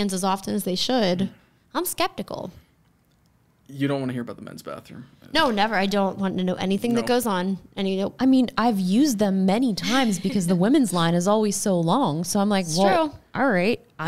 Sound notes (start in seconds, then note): 9.8 laughs